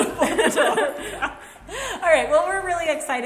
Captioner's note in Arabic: كلاهما يضحك